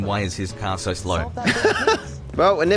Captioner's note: laughs